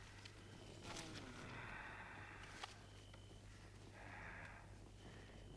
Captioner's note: Torente moaning